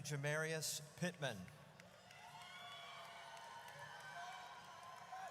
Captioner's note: audience cheers